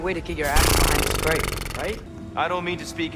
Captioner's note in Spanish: resoplido de frustración